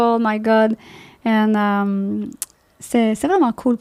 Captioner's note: in french